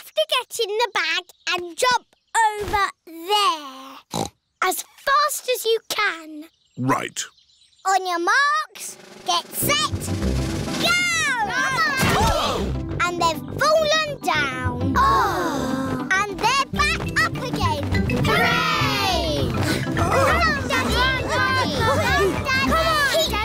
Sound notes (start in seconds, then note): 4.1 snorts; 12.3 all groan